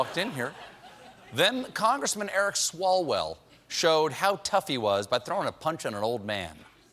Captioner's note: laughter